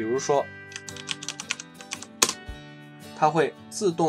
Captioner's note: typing Sound